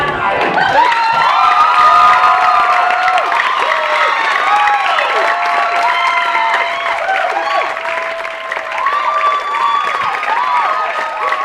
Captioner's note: applause